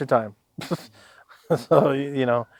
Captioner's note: chuckles